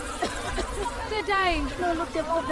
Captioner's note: spraying, coughing, chaos